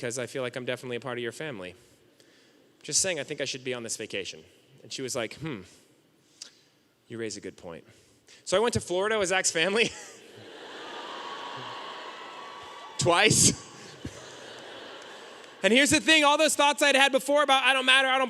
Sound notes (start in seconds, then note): 10.2 audience cheering and laughing